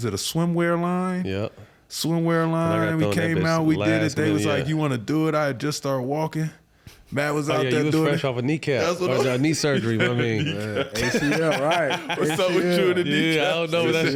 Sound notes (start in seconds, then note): 11.1 group laughing